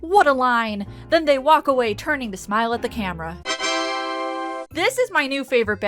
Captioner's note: ta daaaa sound effect